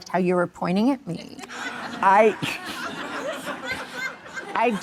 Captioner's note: audience laughing